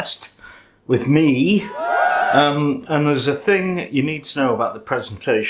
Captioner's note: curtailed cheer